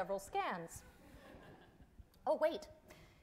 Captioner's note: audience laughing